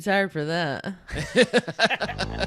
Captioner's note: laughing; upbeat music